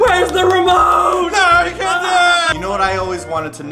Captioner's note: panic sounds